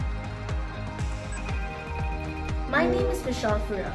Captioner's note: phone rings